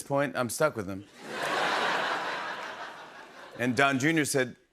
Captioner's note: laughter